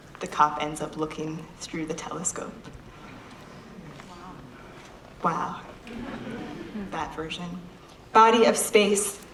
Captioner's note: audience laughter